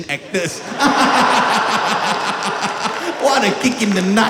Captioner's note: gleeful Laughter